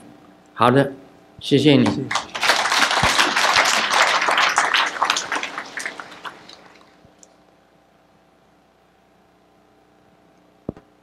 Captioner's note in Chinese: 眾鼓掌